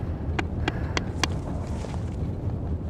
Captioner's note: nervous breathing, footsteps coming up; tapping on the back of the helmet